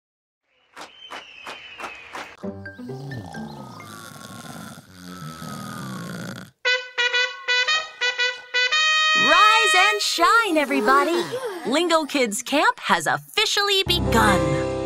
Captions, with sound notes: [snoring] [trumpet blowing] Rise and shine, everybody. Lingokids Camp has officially begun.